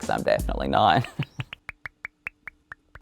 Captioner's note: laughs